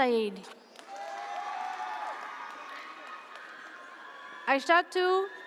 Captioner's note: audience cheers